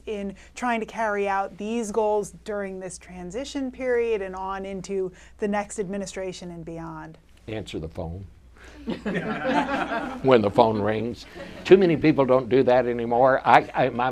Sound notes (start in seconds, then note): 8.8 audience laughter